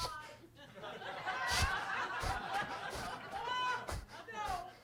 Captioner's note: attendees laughing